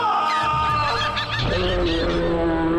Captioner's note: birds squawking